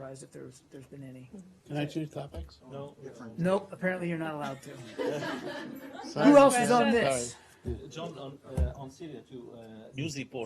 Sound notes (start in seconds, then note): 4.4 laughter